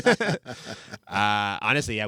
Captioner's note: laughing